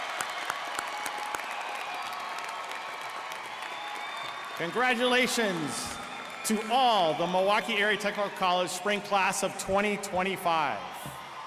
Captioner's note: applause